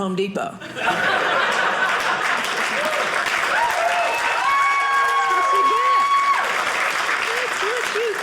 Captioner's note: audience cheering